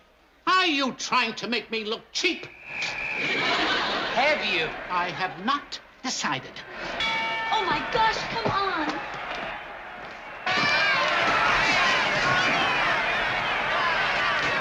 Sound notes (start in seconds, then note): 6.9 bell rings; 10.5 crowd shouting